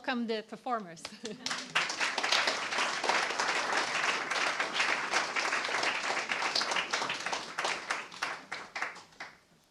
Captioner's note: applause